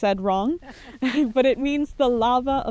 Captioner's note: group members chuckle